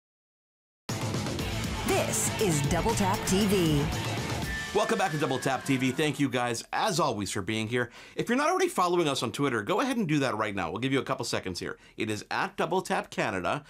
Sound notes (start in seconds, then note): 0.9 inspirational music; 1.7 voiceover